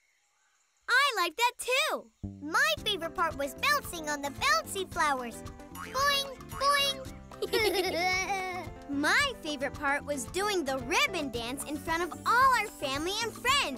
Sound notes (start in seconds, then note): 7.4 laughing